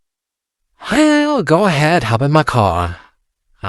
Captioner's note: sighing